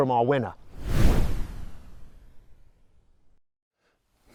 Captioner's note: air whooshes